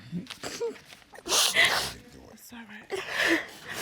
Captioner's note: sniffles